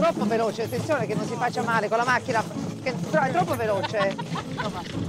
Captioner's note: speaks in Italian